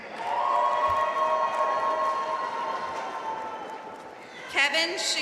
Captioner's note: audience cheering and applauding